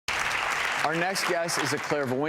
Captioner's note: clapping